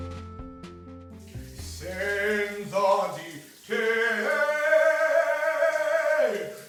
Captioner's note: shower water trickles; singing